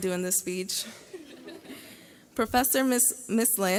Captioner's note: graduates laugh